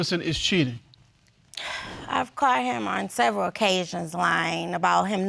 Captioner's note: sighs